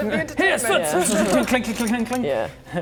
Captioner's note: clink clink clink clink clink